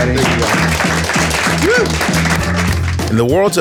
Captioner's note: audience applauding